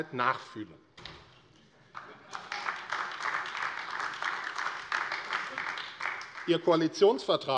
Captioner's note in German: Heiterkeit und Beifall AfD